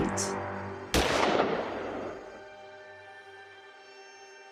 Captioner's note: gunshot blasts